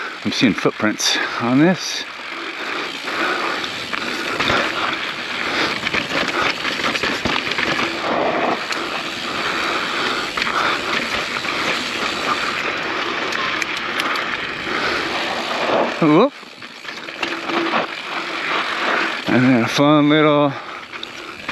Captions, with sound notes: I'm seeing footprints on this. (bike wheel skirts) (biker gasps) And then a fun little drop.